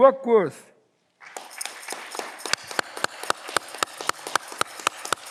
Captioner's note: audience clapping